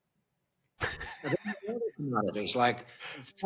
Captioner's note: laughing